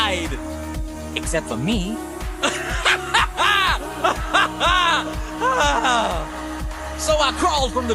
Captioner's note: laughs maniacally